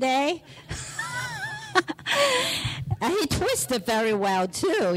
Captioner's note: laughs